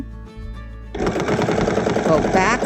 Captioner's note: machine whirring